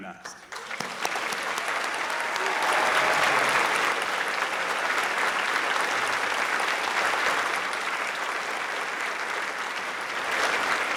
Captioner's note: applause